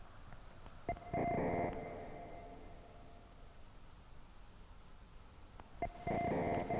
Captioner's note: distorted electronic tones ring